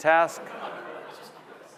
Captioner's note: laughter